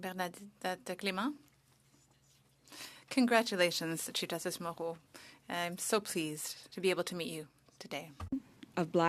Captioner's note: speaking French